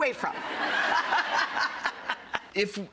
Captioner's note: laughing